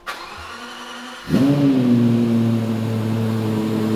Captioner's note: car revs